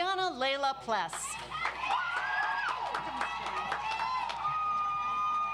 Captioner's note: audience applauds